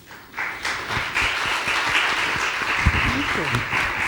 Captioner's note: attendees applauding